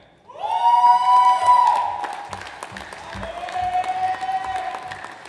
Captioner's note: audience applauds